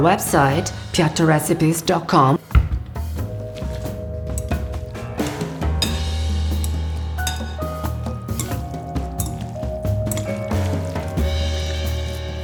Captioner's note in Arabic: يتحدث الإيطالية